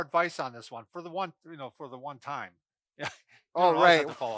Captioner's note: laughs